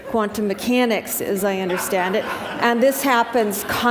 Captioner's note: laughter